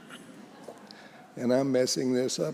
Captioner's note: congregation chuckles